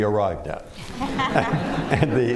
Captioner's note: laughter